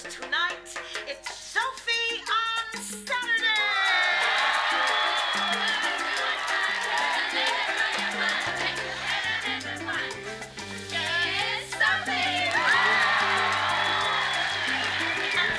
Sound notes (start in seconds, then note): 3.7 audience applauding; 3.7 cha-cha-cha music; 11.8 audience screams and applauds